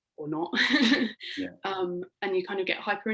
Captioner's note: laughing